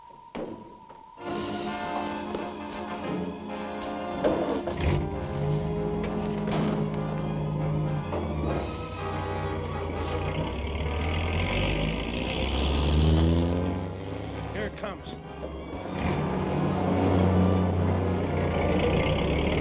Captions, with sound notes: (door bangs) (dramatic orchestral music) (engine rumbles) - Here it comes. (engines rumble)